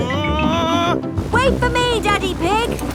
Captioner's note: screaming